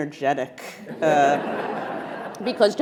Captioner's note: attendees laughing